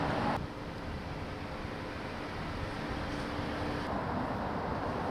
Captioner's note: car engine humming